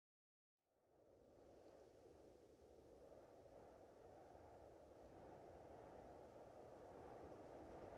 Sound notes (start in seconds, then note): 3.2 wind holwing